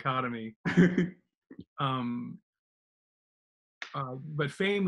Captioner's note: laughs loudly